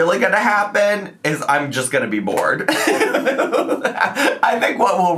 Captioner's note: laughs